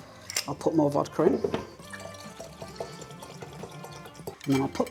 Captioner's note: liquid glugging